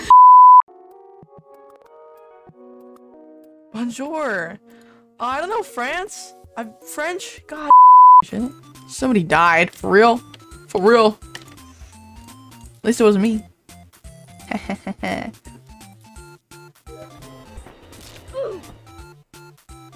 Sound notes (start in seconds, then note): 10.7 deep voice; 12.7 normal voice; 14.4 evil laughter